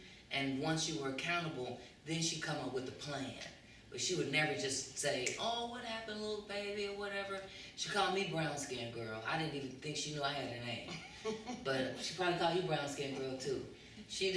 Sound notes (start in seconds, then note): 5.1 snaps; 10.9 laughter